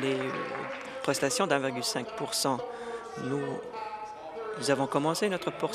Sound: applause

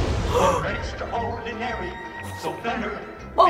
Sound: gasping

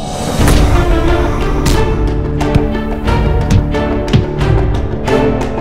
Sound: punch Sounds

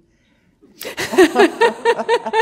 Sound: laughter

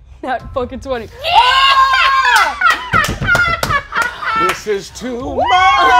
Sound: laughing

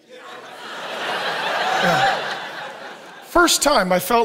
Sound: audience laughs

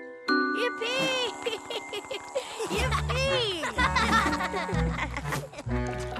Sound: giggles

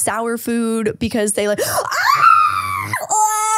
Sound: screaming

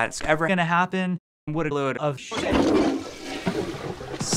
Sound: flushing noise

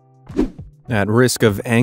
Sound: air whooshing

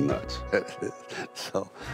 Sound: Sylvester laughs

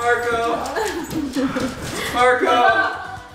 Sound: laughing

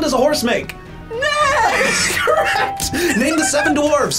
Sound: laughs

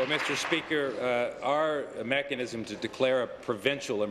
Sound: applause

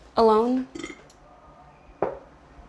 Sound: belching

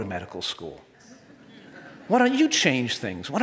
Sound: audience laughs

